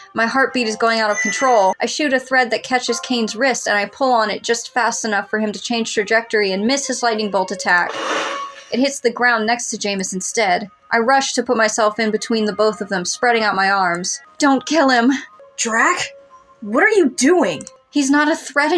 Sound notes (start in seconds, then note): 7.9 crackle